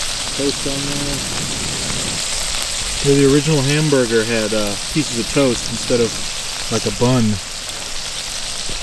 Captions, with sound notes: Toast on there. (pan sizzling) The original hamburger had pieces of toast instead of like a bun,